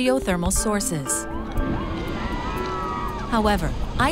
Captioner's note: people cheering